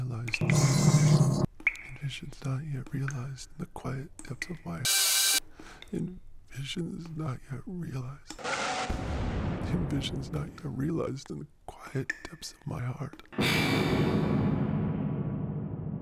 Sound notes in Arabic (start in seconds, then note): 0.3 ضبط الراديو غير المنتظم; 8.8 انفجار قوي; 13.1 لهجة مشؤومة